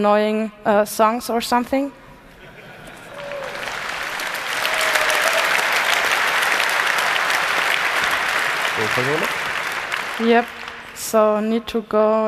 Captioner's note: applause